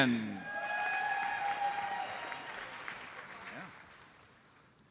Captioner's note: audience cheers and applauds